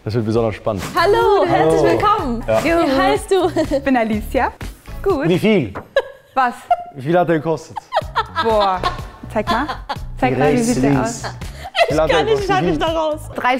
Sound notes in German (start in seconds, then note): 7.7 lacht